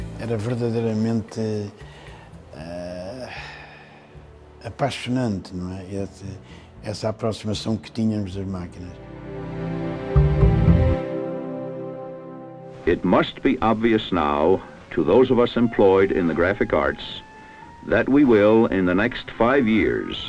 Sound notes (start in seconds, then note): 12.6 speech in English